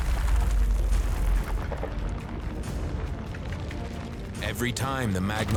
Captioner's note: rocks splitting, magma rumbling